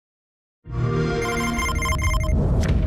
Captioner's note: relaxing electronic music; Xbox sound